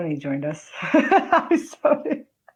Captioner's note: laughs